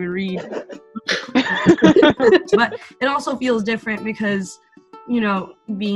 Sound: laugh

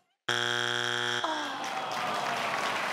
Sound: buzzer beeping; crowd clapping

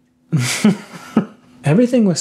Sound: laughing

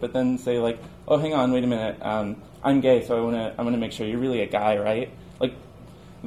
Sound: none

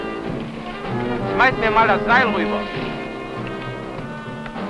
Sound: German spoken audio

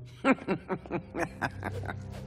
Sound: laughing

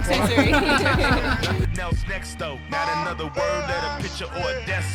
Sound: laughter

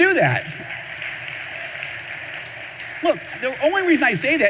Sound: audience applause

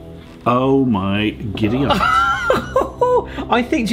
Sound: laughs

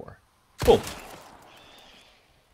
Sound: also boom

